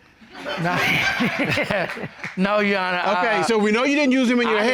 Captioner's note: chuckles